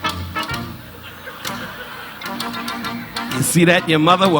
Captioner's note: tap shoes clinking